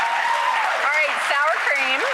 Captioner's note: applauding